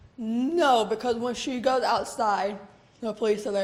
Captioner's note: none